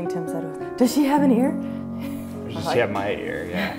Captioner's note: laughter